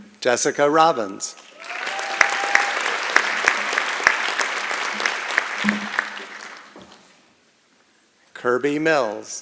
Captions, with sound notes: Jessica Robbins. [ Applause and Cheering ] Kirby Mills.